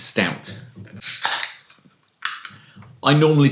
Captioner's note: cracking of can